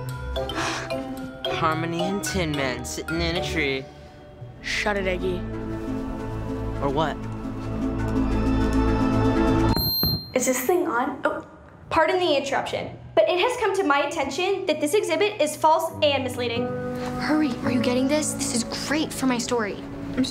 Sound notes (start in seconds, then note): 7.7 intense music; 9.7 mic screeches